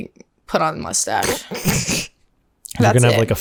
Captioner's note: laughter